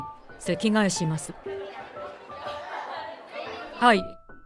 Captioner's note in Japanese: 生徒たちの騒ぎ声